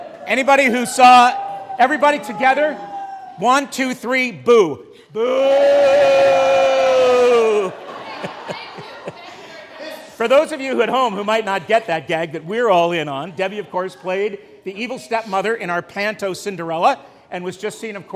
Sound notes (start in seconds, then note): 0.0 crowd ooohhhs and ahhhss; 5.1 booooooossss ensue from the crowd